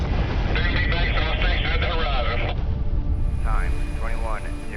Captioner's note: explosion